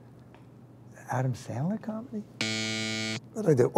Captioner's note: buzzer buzzes